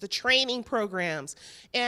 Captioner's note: none